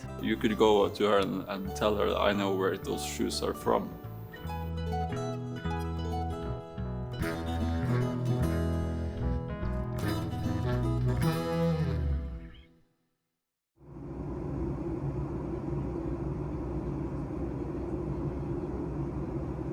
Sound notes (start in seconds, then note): 5.9 gentle music continues; 14.0 jet engine